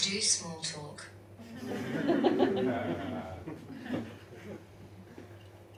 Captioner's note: audience laughs